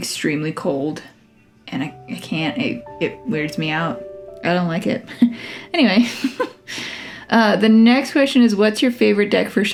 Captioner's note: laugh